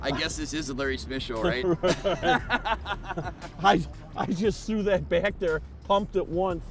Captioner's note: laughing